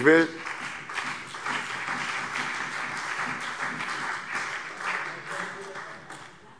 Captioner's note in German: Beifall CDU und BÜNDNIS 90/DIE GRÜNEN